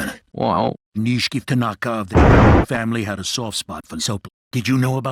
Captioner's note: convenient thunder